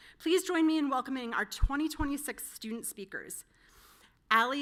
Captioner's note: none